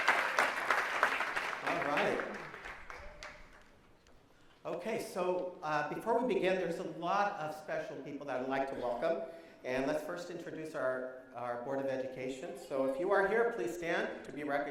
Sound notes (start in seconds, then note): 0.0 applause